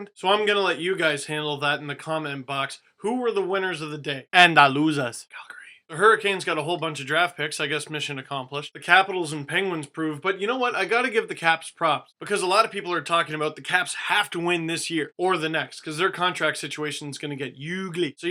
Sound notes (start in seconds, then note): 5.4 whispering